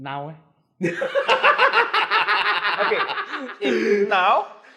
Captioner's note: laughs